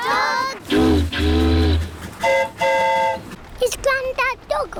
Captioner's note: train horn toots; boat horn honks